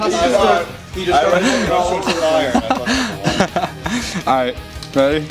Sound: indistinct conversation

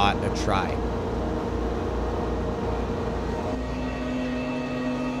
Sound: boat motor hums

